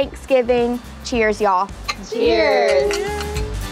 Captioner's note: glasses clink